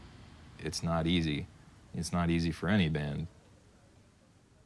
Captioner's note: voiceover